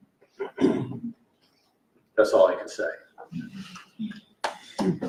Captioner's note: applause